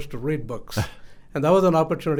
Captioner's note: laughs